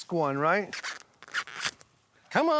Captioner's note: husking corn